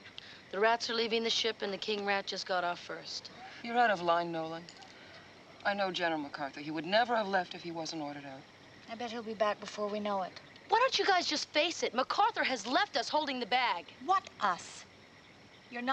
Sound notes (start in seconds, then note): none